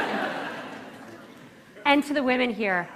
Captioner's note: laughter